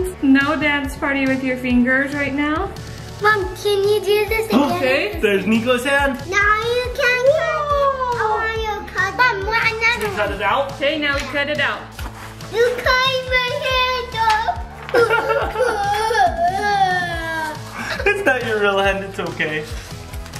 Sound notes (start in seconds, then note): 14.8 cries; 15.0 dad imitates crying; 20.2 upbeat music